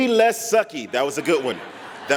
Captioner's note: laughter